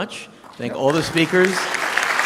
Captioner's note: clapping